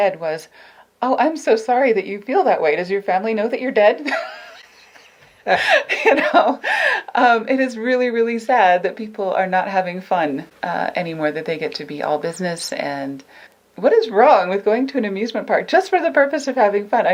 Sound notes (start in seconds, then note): 4.1 laughs; 5.4 laughing